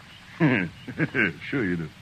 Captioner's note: laughing